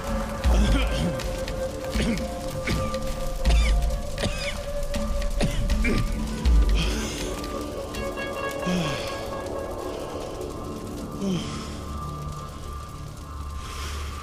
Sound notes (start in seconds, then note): 1.9 coughing